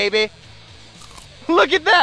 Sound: crunch

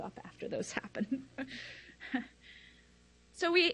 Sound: laughs

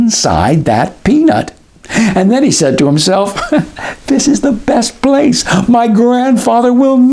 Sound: laugh

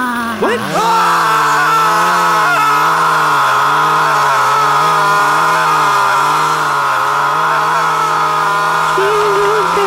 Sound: scream

